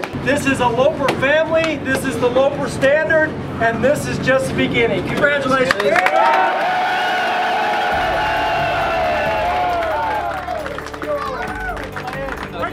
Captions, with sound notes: - This is a Loper family, this is the Loper standard and this is just the beginning, congratulations. (cheering)